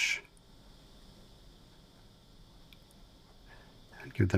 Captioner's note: silence